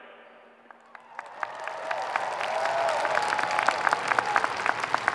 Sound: audience cheering

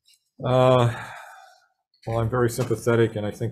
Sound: sighs

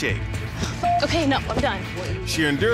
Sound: beep

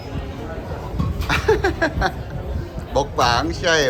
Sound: laughing

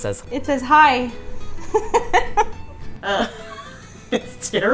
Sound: laughing

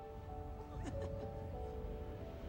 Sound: laughs

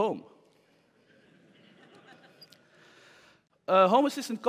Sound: laughter

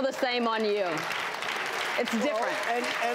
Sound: audience laughs and claps

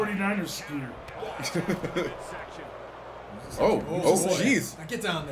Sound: laugh

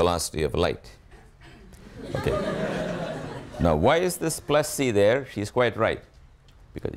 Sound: students laugh

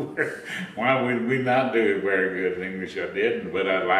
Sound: laughs

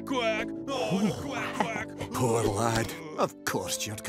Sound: relieved sigh

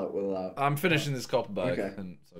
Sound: all laughing

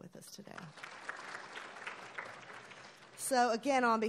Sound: applauding

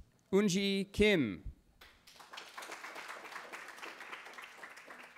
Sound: cheering

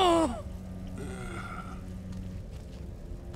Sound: groaning

